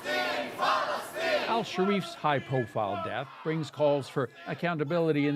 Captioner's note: speaking alternate language